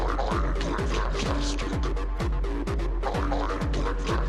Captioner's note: monstrous voice